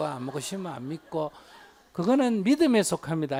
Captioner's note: audience Laughter